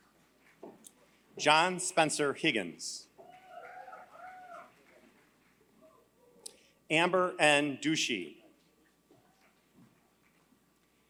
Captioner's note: applause